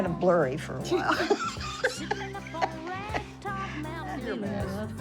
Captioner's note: laughing